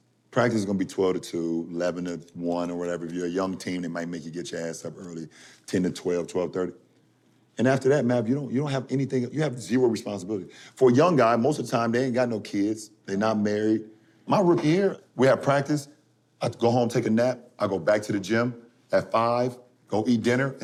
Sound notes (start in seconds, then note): none